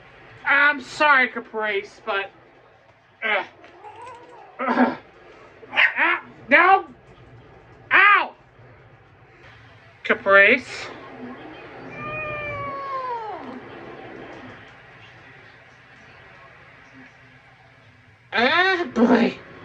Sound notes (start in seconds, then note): 11.9 resumes meowing in discomfort